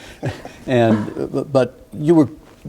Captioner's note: laughing